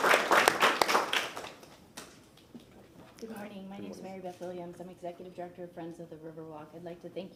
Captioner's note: applause